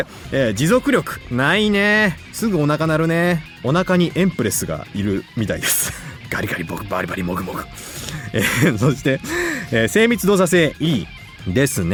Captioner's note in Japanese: 笑い